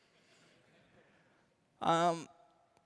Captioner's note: laughter